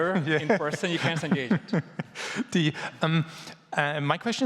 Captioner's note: laughing